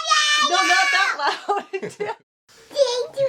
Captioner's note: laughter